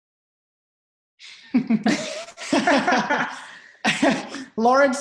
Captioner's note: both laughing